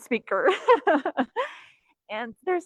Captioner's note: laughing